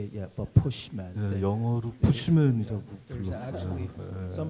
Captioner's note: speaking Korean